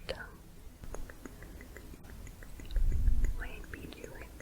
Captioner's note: tongue clicking